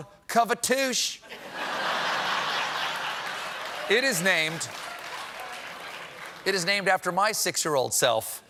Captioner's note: laughter